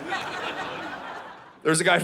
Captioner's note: audience laughing